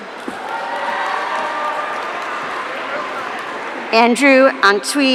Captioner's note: audience cheering